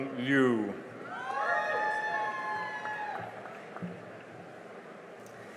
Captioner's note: cheering and applause